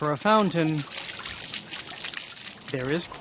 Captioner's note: water splashing